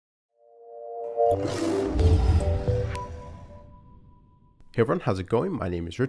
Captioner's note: calm music; lion roars